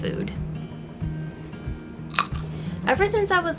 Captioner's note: cronch